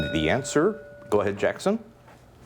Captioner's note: bell ringing